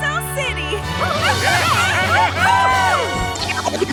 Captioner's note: cheering